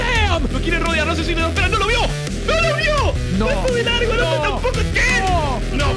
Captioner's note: speaking in foreign language